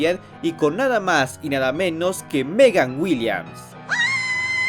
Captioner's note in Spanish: Gritos